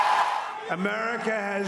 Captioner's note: cheering